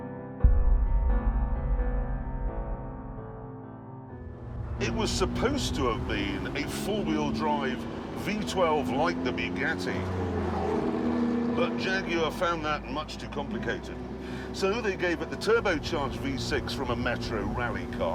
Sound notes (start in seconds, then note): none